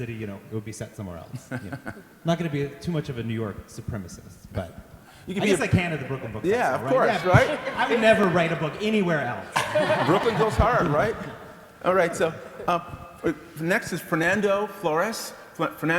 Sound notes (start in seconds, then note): 6.7 audience laughter; 9.7 laughter